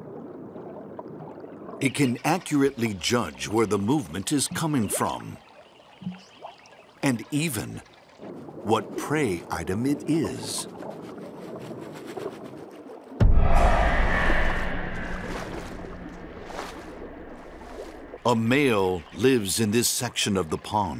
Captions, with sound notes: It can accurately judge where the movement is coming from. And even what prey item it is. (ominous music) (water splashing) A male lives in this section of the pond,